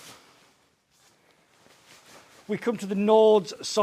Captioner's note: fabric crinkles